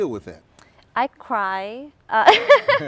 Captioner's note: laughs